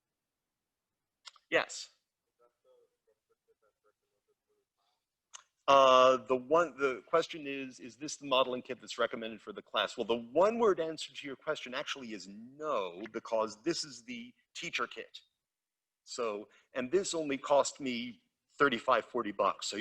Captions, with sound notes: Yes. (student speaking faintly) The question is, is this the modeling kit that's recommended for the class? Well, the one-word answer to your question actually is no because this is the teacher kit. And this only cost me 35, 40 bucks.